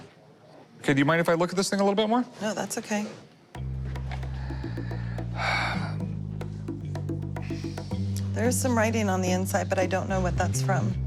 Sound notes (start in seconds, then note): 4.9 sighs